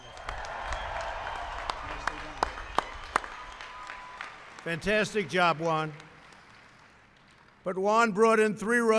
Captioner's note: applause